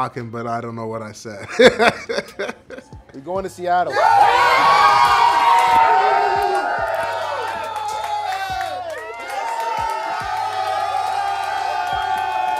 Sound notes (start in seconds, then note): 1.4 laughing; 4.1 group cheering